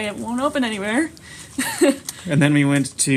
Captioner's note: nervously laughs